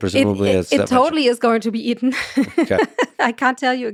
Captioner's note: laughs